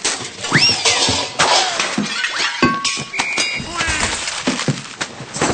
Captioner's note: cartoon noises